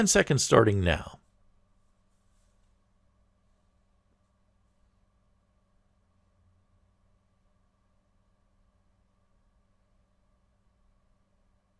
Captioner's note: pause